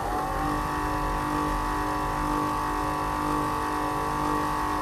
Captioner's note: machine whirring